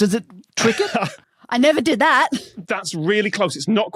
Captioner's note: laughs